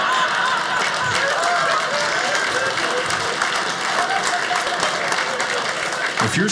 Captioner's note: audience laughing; audience applauding